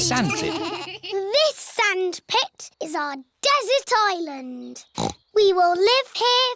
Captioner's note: snorts